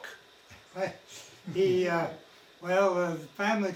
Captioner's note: attendee chuckles